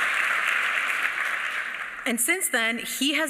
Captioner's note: applause